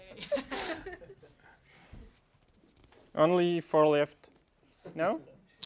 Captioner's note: laugh